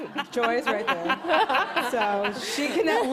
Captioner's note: laughter